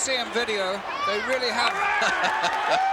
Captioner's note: laugh